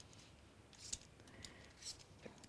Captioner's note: scraping